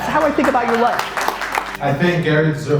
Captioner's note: audience applause